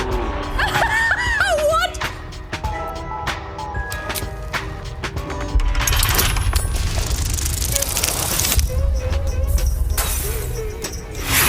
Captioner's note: laughter